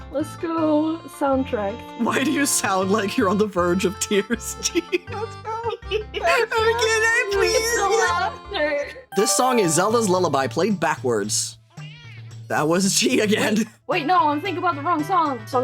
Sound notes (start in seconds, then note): 5.4 mock Whining